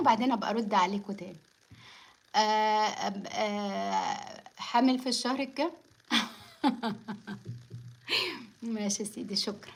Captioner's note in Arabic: ضحك